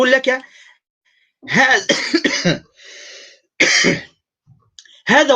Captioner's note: coughs